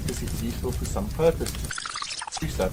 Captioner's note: tape squealing